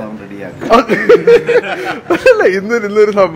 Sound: laughing

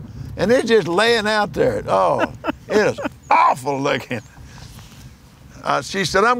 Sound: laughs

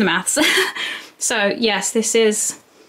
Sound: laughs

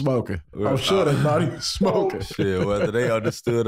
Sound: laughs

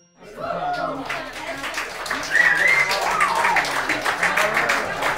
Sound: applauding, whistling

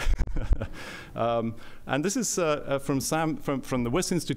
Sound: laughter

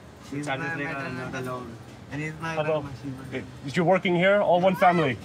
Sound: speaking in foreign language

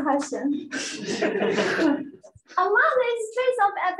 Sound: laughter

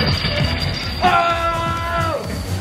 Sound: coins clinking

